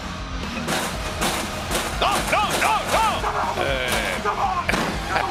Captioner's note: laugh